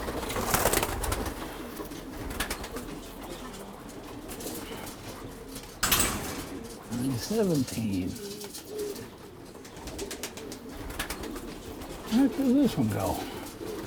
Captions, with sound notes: (gate rattling) 917. The heck does this one go?